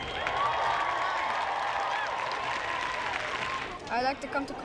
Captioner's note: applause